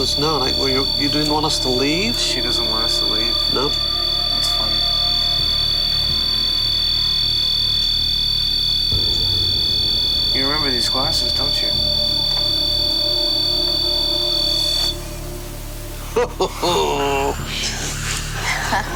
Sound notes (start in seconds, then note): 11.9 buzzing; 14.8 buzzing stops; 16.0 laughs